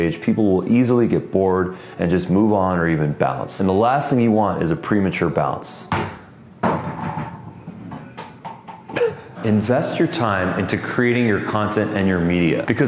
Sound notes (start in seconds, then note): 5.8 ball bouncing; 8.9 laughing